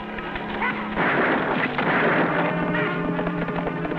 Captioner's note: gunfire